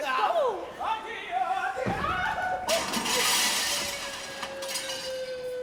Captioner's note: screams; sings opera; cries